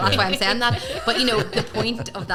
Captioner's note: group laughing